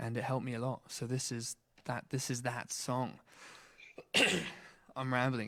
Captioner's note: coughs